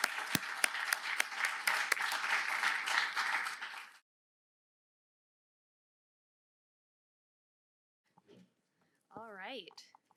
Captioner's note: applause